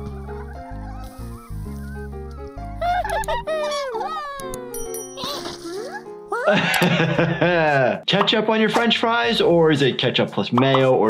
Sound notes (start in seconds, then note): 2.7 characters laughing; 6.4 laughs